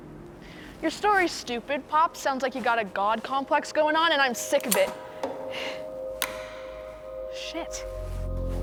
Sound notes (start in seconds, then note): 6.2 gun empty trigger pull